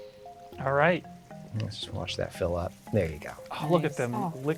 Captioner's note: pat